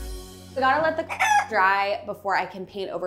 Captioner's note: rooster crows